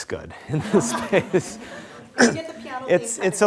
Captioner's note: laughing